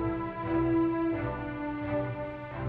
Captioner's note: none